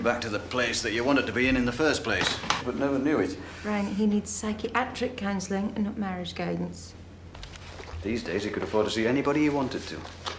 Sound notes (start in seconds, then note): none